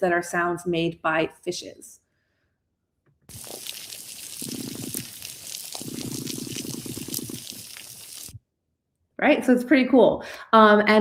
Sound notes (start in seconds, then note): 3.3 shrimps crackling